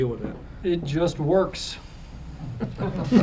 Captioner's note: laughter